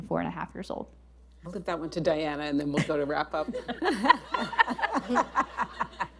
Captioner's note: laughter